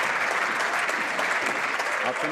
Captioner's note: some Applause